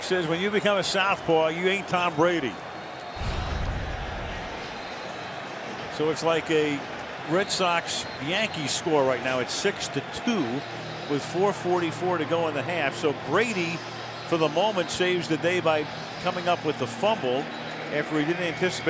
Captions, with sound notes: Yup, Rex says, when you become a southpaw, you ain't Tom Brady. [whistle] So it's like a Red Sox-Yankees score right now at 6 to 2 with 4:44 to go in the half. So Brady for the moment saves the day by coming up with the fumble after he